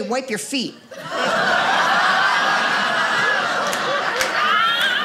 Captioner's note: audience laughing